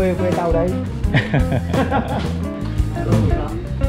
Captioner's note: laught